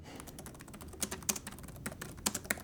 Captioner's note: none